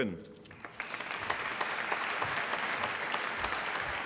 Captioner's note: applause